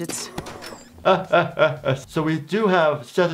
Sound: laughs

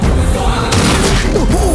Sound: gunshot

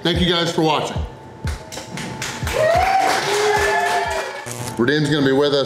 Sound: crowd clapping and cheering

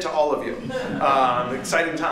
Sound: laughter

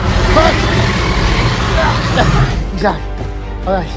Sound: albertosaurus roaring

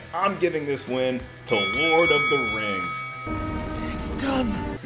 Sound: bell ringing

